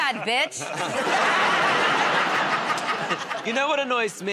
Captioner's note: laughter